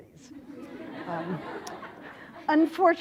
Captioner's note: laughter